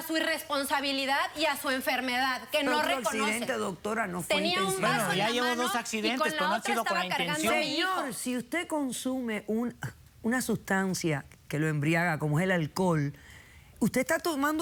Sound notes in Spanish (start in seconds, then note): 5.0 Hablan al unísono